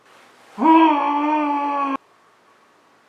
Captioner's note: screams